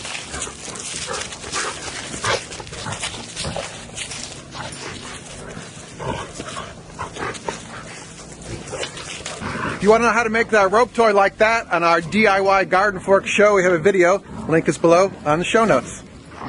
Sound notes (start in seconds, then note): 4.8 growling